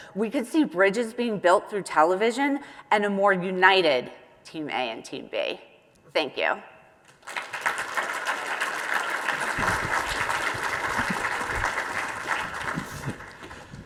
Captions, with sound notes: we could see bridges being built through television and a more united Team A and Team B. Thank you. (audience applauding)